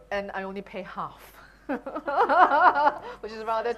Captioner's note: laughing